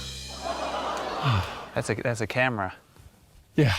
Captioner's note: audience exclaims; sighs